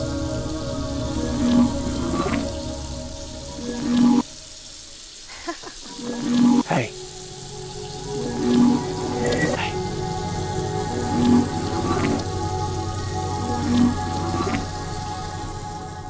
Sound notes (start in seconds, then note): 5.3 chuckle; 9.2 whispers